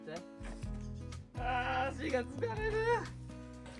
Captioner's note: tears